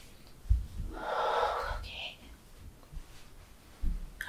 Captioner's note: whispers